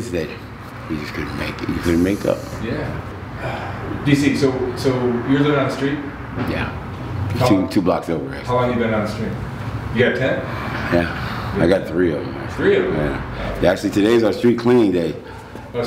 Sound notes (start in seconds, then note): 3.3 sighs